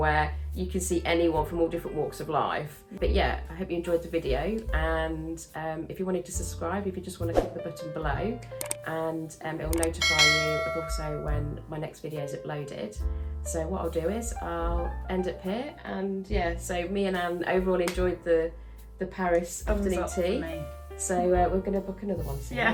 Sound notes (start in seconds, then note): 8.6 mouse clicking; 9.8 bell dinging